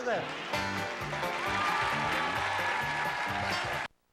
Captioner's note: audience applauding